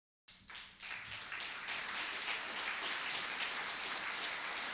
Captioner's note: audience applauding